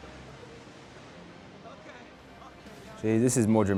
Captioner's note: waves crashing